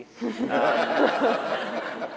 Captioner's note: laughter